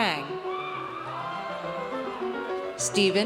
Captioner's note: audience cheers